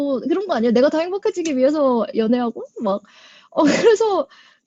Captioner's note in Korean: 웃음